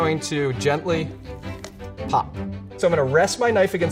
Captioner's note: chicken joint pops